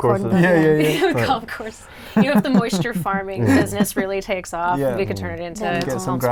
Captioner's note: laughs